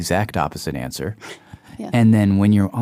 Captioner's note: laughs